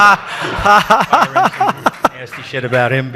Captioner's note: audience laughs